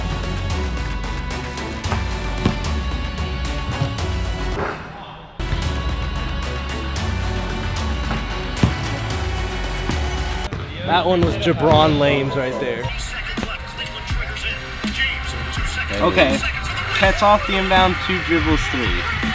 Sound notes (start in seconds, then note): 0.0 upbeat orchestral music; 3.6 ball hits rim; 5.4 upbeat orchestral music; 8.6 ball bounces; 9.3 ball hits backboard; 9.3 upbeat orchestral music; 18.6 crowd cheers